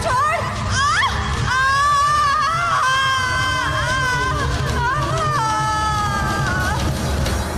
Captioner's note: groans